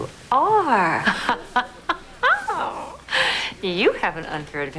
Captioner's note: chuckles